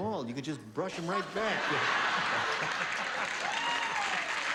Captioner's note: laughter